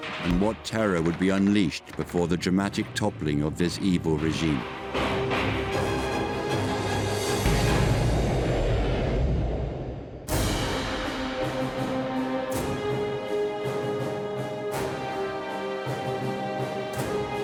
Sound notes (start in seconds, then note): 5.3 dramatic music; 7.4 bomb exploding; 10.5 dramatic music